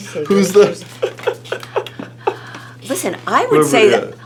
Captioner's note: laughing